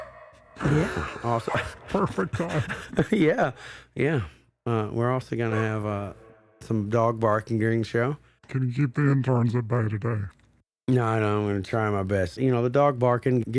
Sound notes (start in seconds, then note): 3.5 laughs